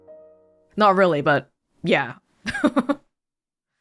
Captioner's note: chuckles